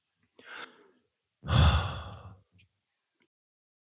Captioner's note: sighs